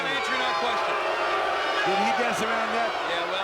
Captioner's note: audience booing